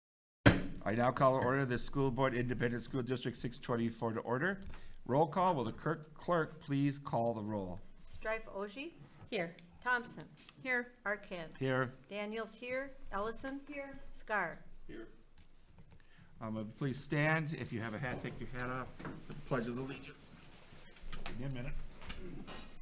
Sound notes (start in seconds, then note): 0.4 gavel bangs